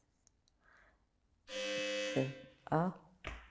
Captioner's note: doorbell